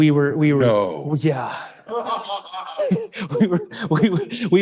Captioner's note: laughing